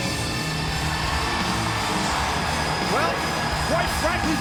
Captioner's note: audience cheers